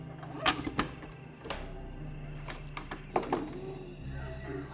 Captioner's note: VCR clicks and whirs